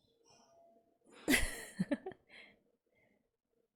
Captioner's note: laughs